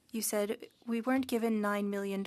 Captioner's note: speaking French